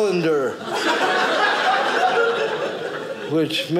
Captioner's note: audience laughing